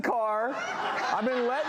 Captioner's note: audience laughs